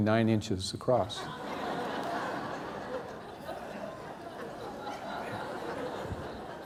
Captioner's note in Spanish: risas